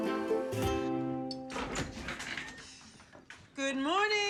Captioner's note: door Opens